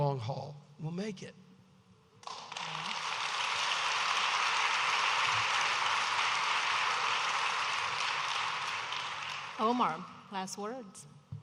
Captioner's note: audience applauding